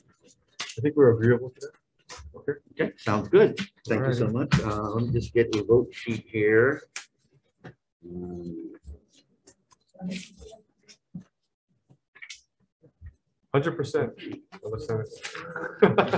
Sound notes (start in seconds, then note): 8.9 group chattering